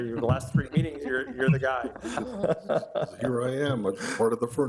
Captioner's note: group laughing